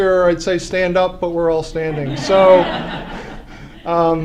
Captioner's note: laughter